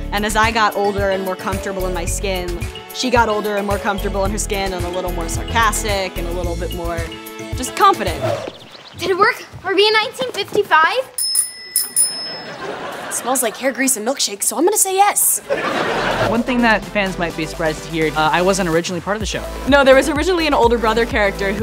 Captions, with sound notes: and as I got older and more comfortable in my skin, she got older and more comfortable in her skin and a little more sarcastic and a little bit more... just confident. Did it work? Are we in 1955? [bell ringing] Smells like hair grease and milkshakes so I'm gonna say yes! One thing that fans might be surprised to hear, I wasn't originally part of the show. No, there was originally an older brother character